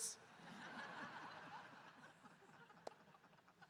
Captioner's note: audience laughing